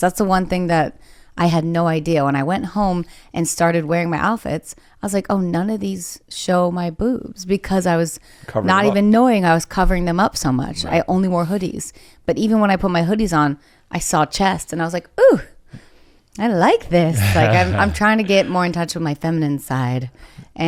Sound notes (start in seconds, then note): 17.1 laughs